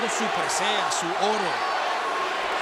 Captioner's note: applause